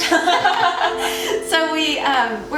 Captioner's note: all laugh